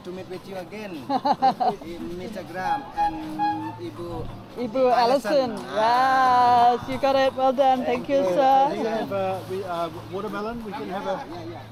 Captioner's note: laughing